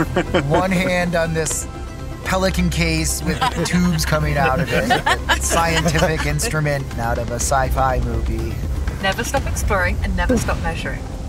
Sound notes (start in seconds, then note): 3.1 scientists laughing